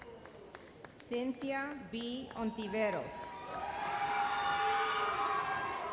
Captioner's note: explosive cheers